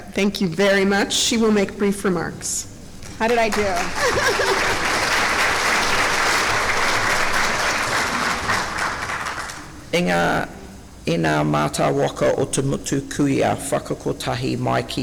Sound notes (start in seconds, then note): 3.5 laughs; 5.1 clapping